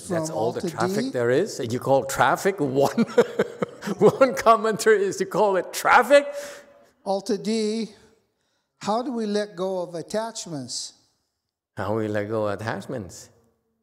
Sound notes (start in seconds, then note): 2.8 laughs